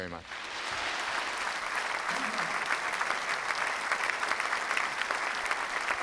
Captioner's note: justices and audience applauding